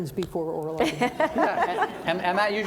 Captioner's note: audience laughing